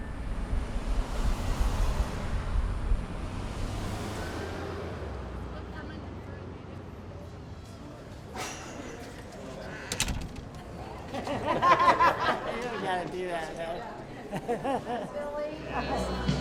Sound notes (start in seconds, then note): 0.0 cars zooming past; 6.2 indistinct conversation; 8.5 door creaking; 8.5 chains clanking; 10.5 people laughing